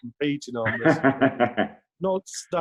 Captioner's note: laughs